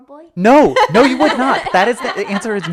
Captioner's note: laughing